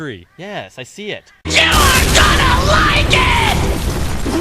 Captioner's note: explosion